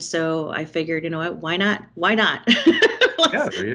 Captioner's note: laughing